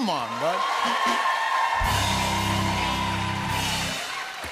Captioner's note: cheers and applause